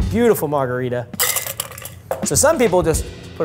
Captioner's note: ice clinks